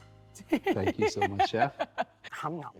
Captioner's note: laughs